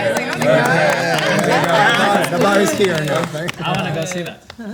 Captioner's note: everyone cheering